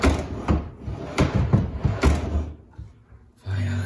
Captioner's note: drawer clunks